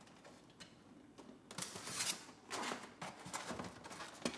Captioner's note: boxes squeak